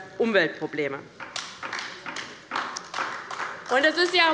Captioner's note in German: Beifall bei der LINKEN